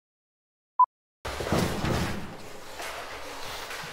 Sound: vigorous rustling and stomping

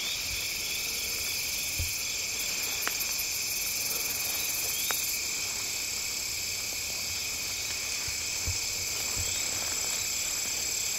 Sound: crickets chirping

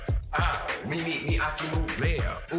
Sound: vocalizing

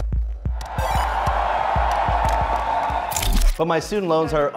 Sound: relaxing electronic music; fans cheering

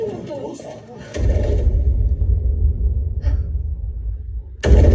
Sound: Godzilla Minus One stomps; Noriko gasps; Godzilla Minus One stomps

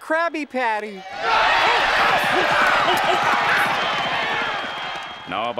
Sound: cheering

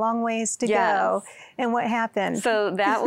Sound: giggling

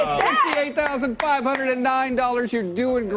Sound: applause

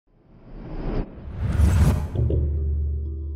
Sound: air whooshing; gentle music

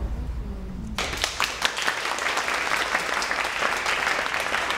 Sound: applause

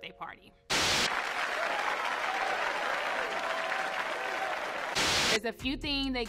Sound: audience claps and cheers; TV static hisses

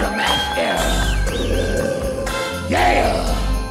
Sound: growls

